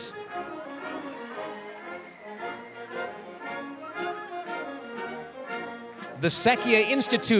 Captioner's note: applause, cheering